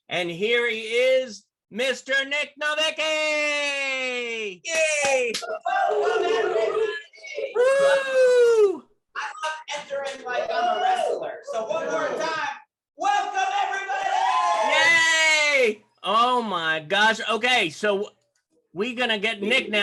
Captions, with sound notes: And here he is, Mr. Nic Novicki, yay. (audience cheering) (indistinct chatters) - I love entering like I'm a wrestler. So, one more time, welcome everybody. - Yay, oh my gosh, okay, so we gonna get Nic now.